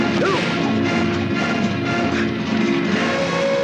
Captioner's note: blow thuds